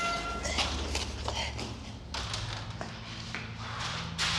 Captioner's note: heavy breathing